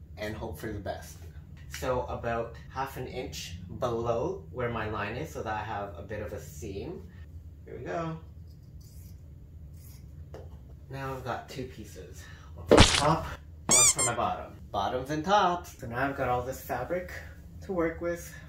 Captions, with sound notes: and hope for the best. So about half an inch below where my line is so that I have a bit of a seam Here we go. Now I've got two pieces. One for my top [squirt sound effect], One for my bottom [squeak sound effect] Bottoms and tops. So now I've got all this fabric to work with